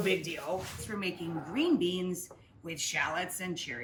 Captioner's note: air whooshes